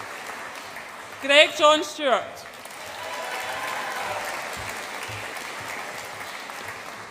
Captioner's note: audience applauds and cheers